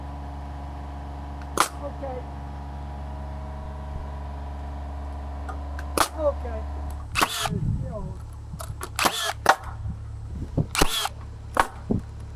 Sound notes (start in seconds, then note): 1.5 tool sputters; 6.7 tool buzzing; 6.8 tool sputters